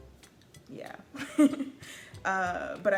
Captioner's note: laughs